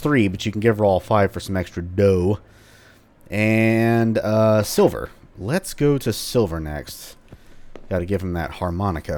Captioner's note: journal closes